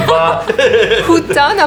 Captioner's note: laughter